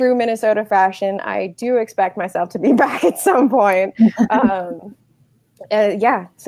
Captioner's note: laughing